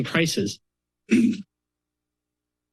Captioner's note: clear throat